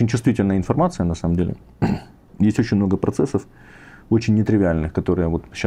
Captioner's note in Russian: откашливается